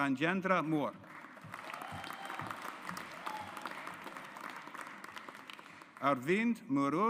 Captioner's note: audience applauds